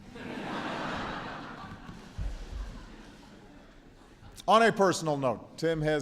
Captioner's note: laughter